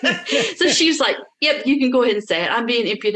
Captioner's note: laughs